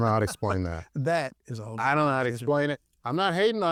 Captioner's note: laughs